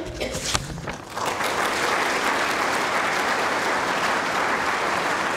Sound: audience applause

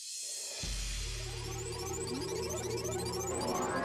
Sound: electronic buzzing

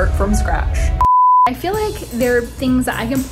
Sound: beep

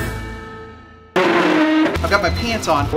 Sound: dog house scrapes

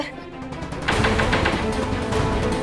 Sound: knocks on door

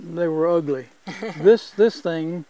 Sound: laughs

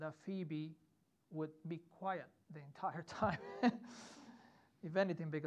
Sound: chuckles

